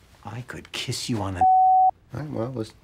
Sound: beep

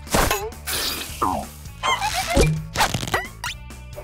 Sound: chattering

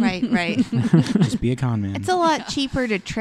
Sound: laughter

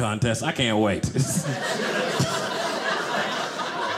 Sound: audience laughing

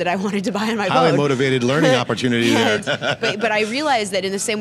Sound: laughs

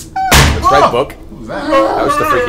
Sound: loud bang offscreen

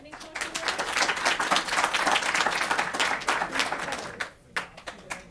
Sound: audience applauds

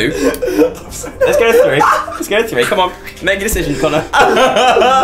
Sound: wheezing

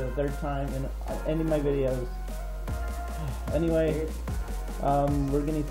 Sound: sigh

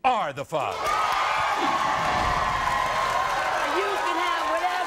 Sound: crowd cheering

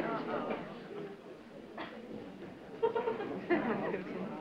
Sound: audience chatter

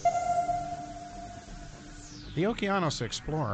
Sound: sonar pings

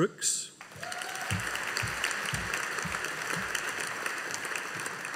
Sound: audience applauding

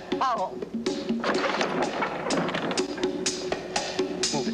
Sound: crashing and clattering

